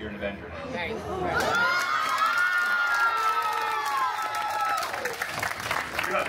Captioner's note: guests cheering and applauding